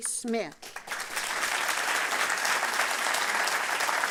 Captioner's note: applause